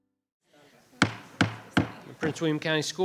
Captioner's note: gavel bangs